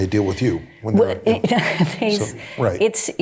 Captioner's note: chuckling